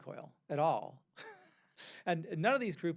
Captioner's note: laughs